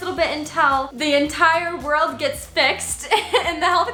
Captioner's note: laughs